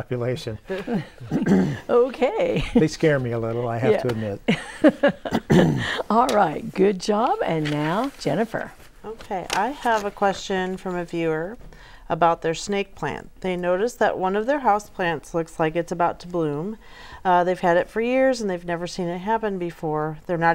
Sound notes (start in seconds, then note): 3.4 laughing; 7.1 laughing